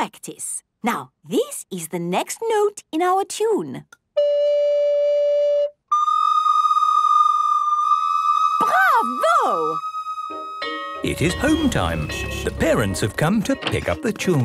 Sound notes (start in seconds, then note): 7.7 school bell ringing